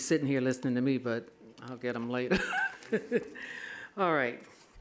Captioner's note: laughing